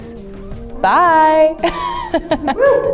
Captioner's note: laughs